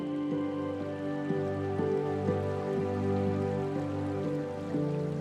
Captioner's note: water babbles